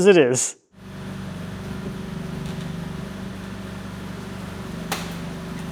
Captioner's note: machinery rumbles